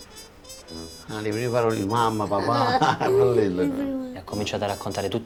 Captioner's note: laughing